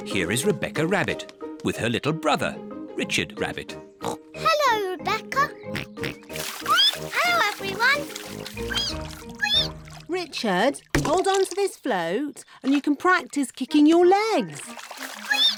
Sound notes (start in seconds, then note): 4.0 oinks; 6.5 squeaks; 8.5 richard squeaks; 15.3 squeaks